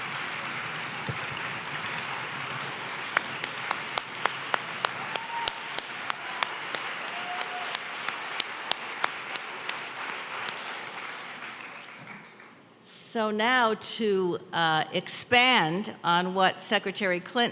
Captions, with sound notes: (cheering and applause) - So now to expand on what Secretary Clinton said